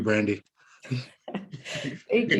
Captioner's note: laughing